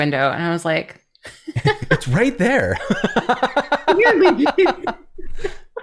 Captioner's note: laughter